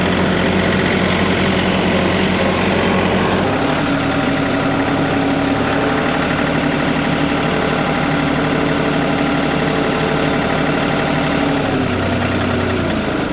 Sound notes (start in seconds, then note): 3.0 motor running